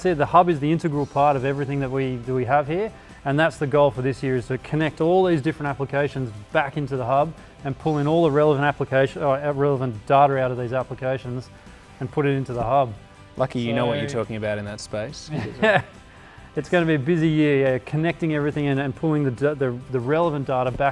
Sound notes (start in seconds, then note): 15.3 laughs